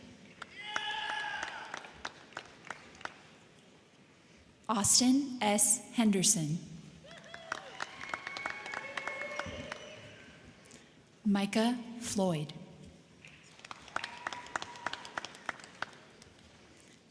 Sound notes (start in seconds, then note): 0.2 crowd clapping; 0.4 crowd cheering; 7.0 crowd cheering; 7.1 crowd clapping; 13.2 crowd clapping; 13.7 crowd cheering